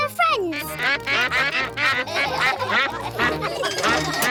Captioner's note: quacks; all quack; laughter